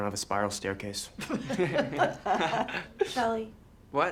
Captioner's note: laughter